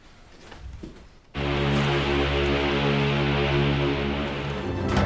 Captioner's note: ship's horn sounds